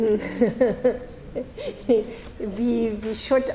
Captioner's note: laughing